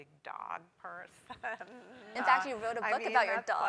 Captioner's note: laugh